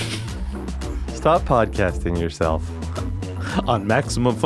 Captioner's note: snickering